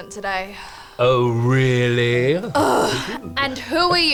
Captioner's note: groans